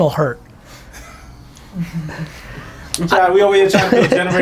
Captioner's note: laughing